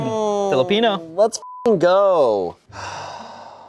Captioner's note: beep